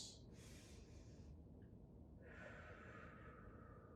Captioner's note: breathing deeply